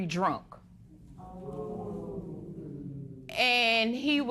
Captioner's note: spectators "ooh"